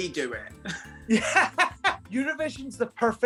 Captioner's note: laughing